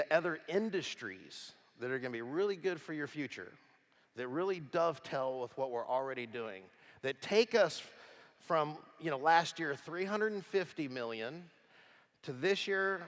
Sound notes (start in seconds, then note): none